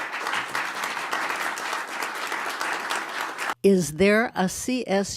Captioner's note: applause